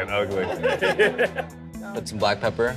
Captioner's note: laughs